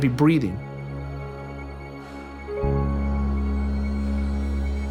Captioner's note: faint heavy breathing